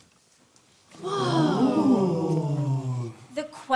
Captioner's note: amazed gawking